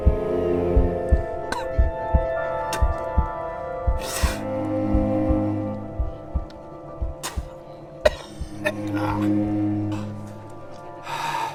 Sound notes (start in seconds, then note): 0.5 low tense music; 8.0 coughing